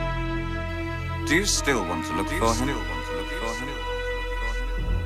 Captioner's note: echoing